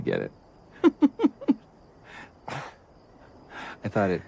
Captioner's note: laughs